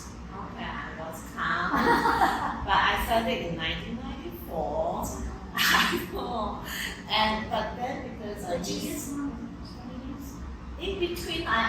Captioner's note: laughs